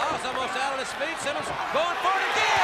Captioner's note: crowd cheering